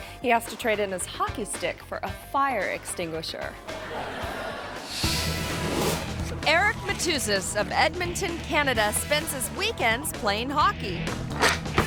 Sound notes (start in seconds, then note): 3.6 audience laughing; 11.6 upbeat music